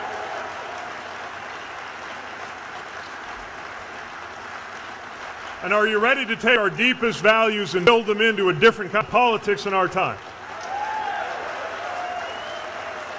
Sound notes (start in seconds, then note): 0.7 cheers/applause; 12.9 cheers/applause